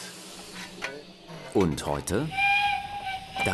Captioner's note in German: Zugpfeifen